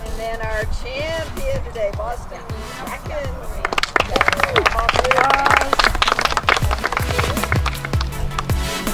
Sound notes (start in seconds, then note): 3.6 applause; 6.0 upbeat music